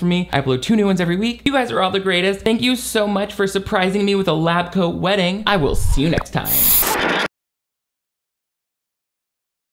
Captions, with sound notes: That way you never miss new videos from me. I upload two new ones every week. You guys are all the greatest. Thank you so much for surprising me with a lab coat wedding. I will see you next time. (static blares)